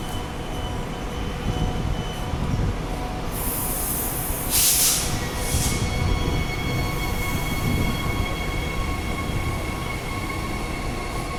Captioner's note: train departs